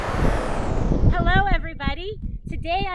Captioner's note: whooshing